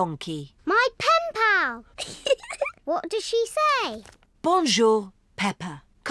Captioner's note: giggles